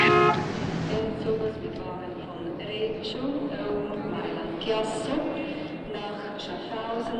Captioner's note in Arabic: صوت أبواق السيارة; مذيع يتحدث بلغة أجنبية